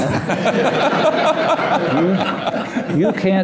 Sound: laughter

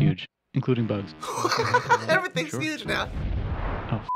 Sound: laughing

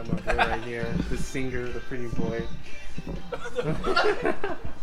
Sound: laughing

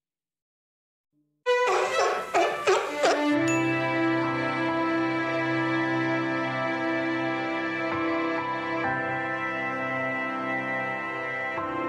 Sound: the Seal is Barking

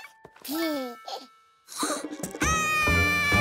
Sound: gasp; scream

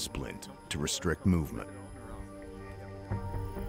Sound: voiceover

